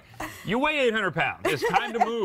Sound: laughter

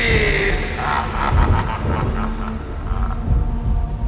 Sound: evil laughing

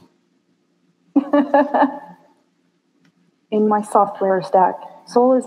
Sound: Sophia Laughs

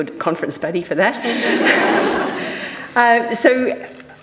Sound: audience laughing

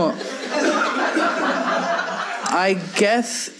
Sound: audience laughs

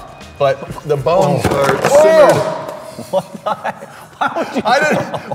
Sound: strange noises as head of brocolli falls from the sky

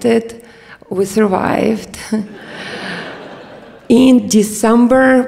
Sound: audience laughs

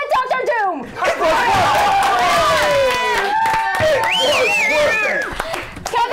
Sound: cheers and applause

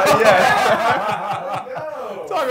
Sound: men laughing

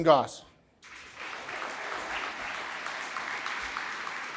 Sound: applause

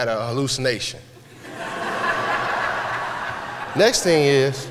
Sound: laughter

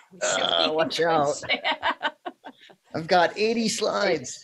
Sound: laughing

